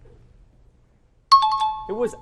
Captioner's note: timer bell rings